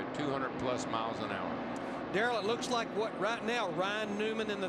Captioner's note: engines roar